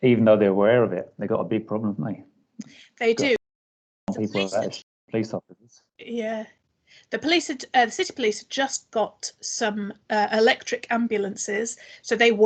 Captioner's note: broken audio